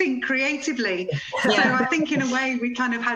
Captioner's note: laughter